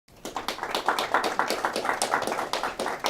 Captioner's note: applause